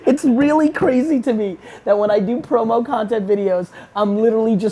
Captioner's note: none